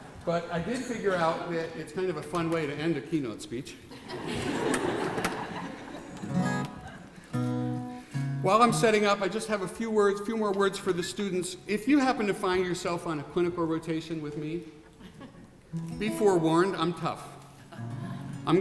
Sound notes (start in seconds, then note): 0.0 laughing; 3.9 laughing